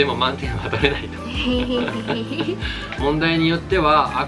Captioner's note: two trying to laugh it off